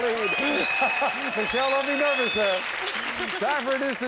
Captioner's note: bell